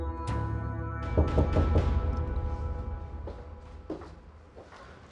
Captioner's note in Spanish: Toques en la puerta